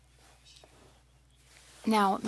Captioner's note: speaking French